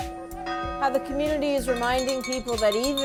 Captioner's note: bells tolling